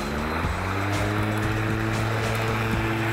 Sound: mower sound

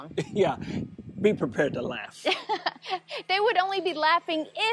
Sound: laughs

